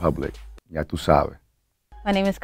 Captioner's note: speaking Spanish